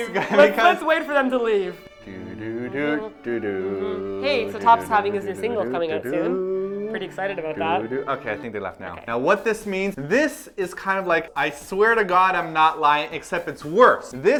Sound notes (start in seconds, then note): 1.6 waiting for Moms to leave humming